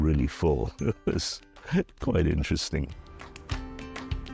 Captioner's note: chuckling